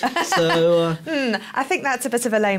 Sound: laughing

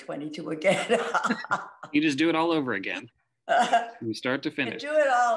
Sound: laughs

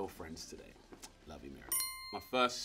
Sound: bell dinging

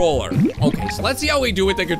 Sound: bubbles

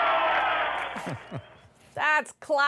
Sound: cheers and Applause; laughter

